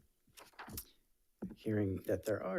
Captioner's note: paper rustling